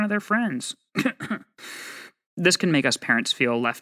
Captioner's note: cough cough